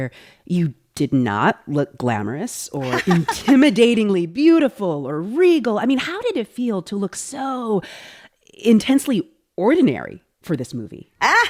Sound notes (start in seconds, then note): 2.8 laughter